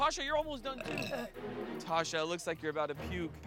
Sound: belching

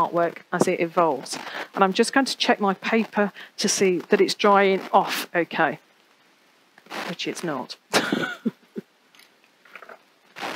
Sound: laughs

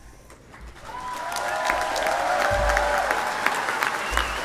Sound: applause

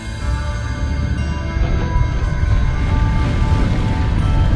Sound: door opens

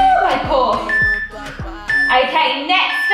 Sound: workout timer beeping

